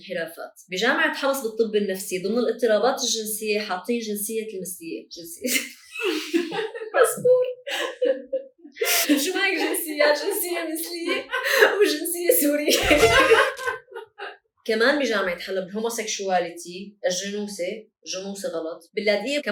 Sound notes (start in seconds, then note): 5.5 laughter